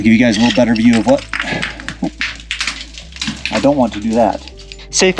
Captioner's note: rocks falling